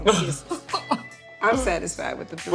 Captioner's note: laughs